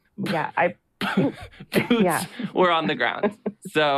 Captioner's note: laughs